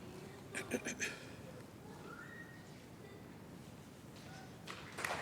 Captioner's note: clears throat